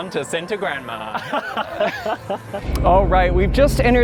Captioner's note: laughter